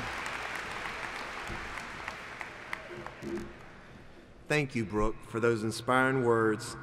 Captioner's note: applauding